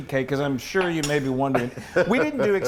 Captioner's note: laugh